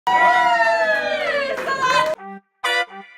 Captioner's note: cheering; upbeat music